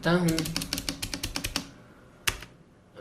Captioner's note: keyboard sound